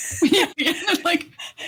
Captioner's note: both laughing